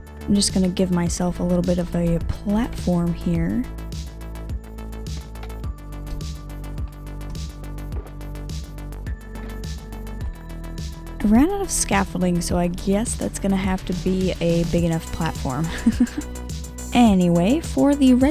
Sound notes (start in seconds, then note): 15.7 laughing